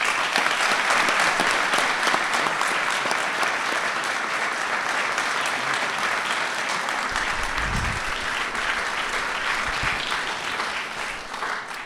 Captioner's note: applause